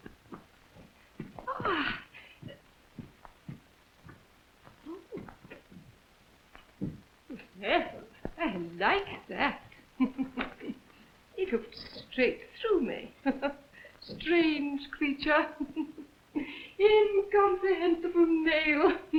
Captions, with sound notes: - I like that (giggles). He looked straight through me. Strange creature. Incomprehensible nail.